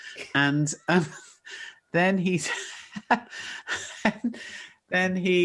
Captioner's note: Jo laughs